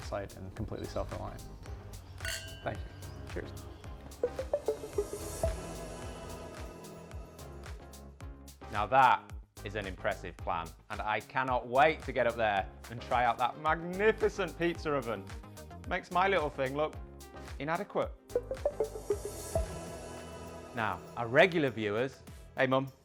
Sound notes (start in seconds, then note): 2.2 glasses clink; 4.1 upbeat music; 18.2 upbeat music